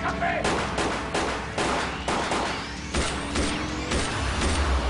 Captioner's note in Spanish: Disparos